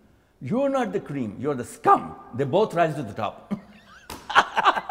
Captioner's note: both laugh